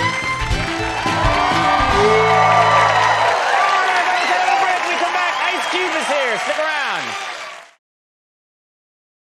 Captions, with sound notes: (audience cheers) We're gonna take a little break. When we come back, Ice Cube is here! Stick around.